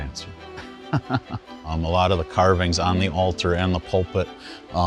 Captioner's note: laughing